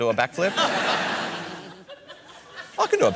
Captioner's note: laughter